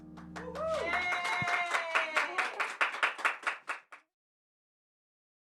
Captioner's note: audience clapping and cheering